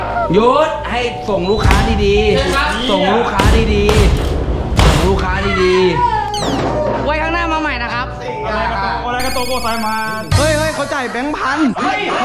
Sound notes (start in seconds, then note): 2.5 pat; 9.4 speaks in Japanese